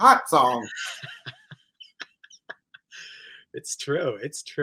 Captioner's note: laughs